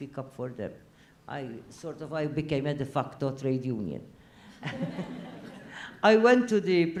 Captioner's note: laugh